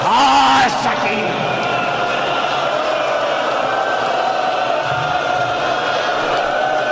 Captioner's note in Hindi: चीखने की आवाज़; हौसला बढ़ाने की आवाज़